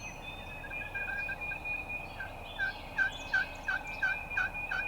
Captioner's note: turkey calls